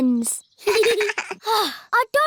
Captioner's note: both laugh